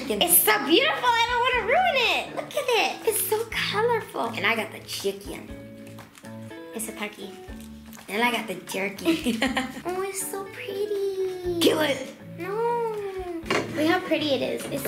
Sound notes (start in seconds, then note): 9.0 laughing